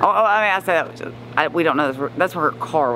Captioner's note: stammers